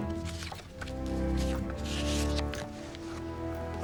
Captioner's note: paper rustling